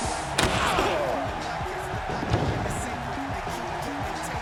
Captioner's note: weak explosion